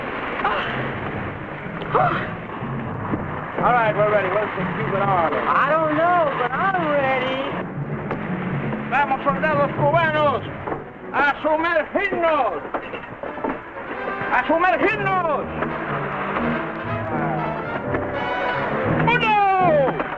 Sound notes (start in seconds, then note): 6.8 man speaking in Spanish; 16.6 man speaking in Spanish; 18.8 water splashing